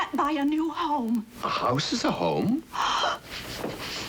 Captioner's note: gasping